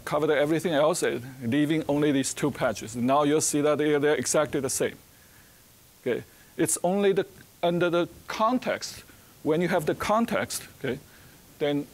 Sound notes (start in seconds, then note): none